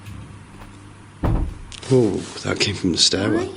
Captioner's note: soft thuds